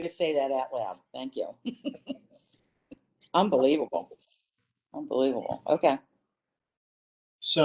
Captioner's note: laughter